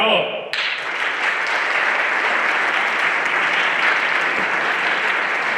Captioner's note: everyone applauding